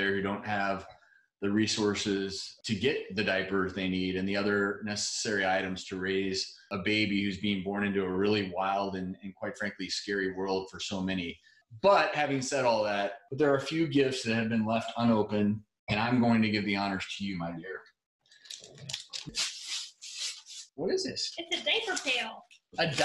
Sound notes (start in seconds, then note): 18.8 paper ripping